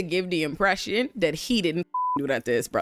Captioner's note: beep